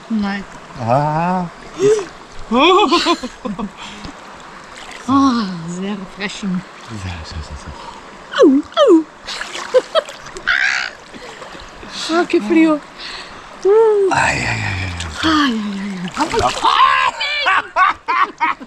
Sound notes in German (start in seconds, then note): 2.6 gelächter